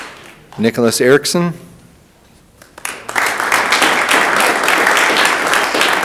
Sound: audience applauding

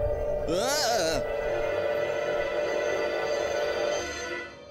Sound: eerie Piercing Sound

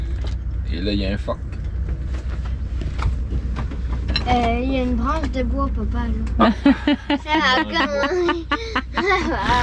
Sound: laughs

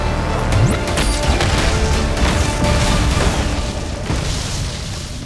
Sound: explosions

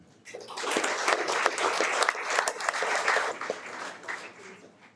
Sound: audience applauds

